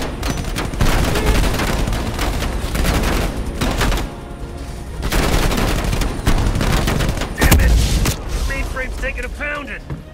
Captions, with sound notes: (gunshots) - Dammit! The main frame's taking a pound and...